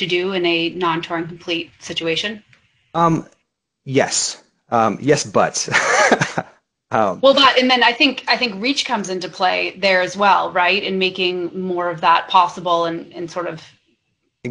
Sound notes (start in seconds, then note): 4.7 laughs